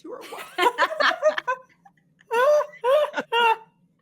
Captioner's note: all laughing